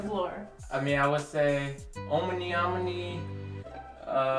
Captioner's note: speaks in Korean; comical music